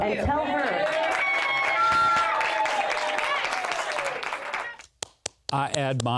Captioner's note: crowd cheering and applauding